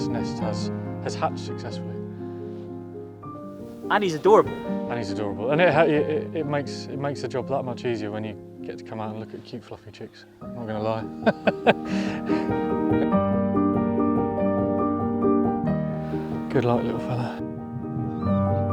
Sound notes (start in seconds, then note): 11.2 laughs